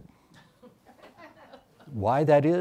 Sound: audience laughs

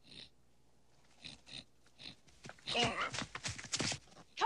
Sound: Kiog snorting

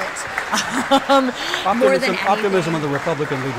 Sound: laughing

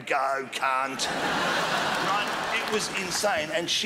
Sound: crowd laughs

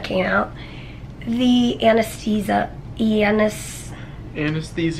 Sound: stammering

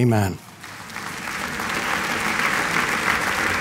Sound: applause

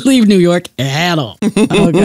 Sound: laughs

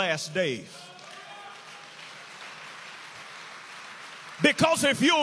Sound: inmates cheer and applaud

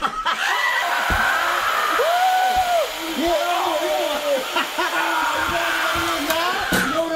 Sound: laughing; drill & screaming

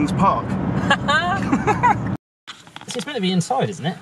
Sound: laughs

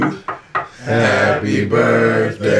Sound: knocking on table

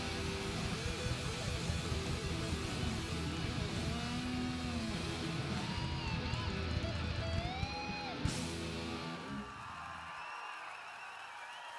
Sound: cheers and applause

